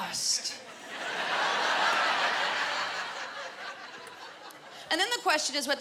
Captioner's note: laughter